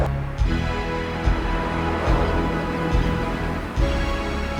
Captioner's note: car whooshes